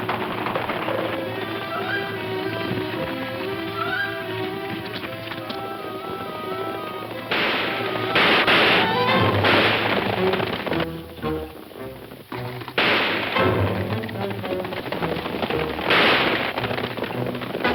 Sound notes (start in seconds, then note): 7.2 guns firing; 10.3 soft suspenseful music; 12.7 gun fires